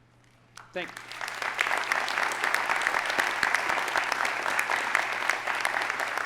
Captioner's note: audience applauding